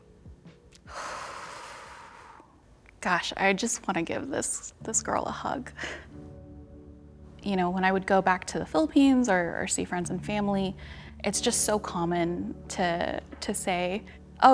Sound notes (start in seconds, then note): 0.8 woman exhales deeply; 6.8 sighs